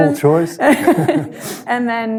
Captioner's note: all laughing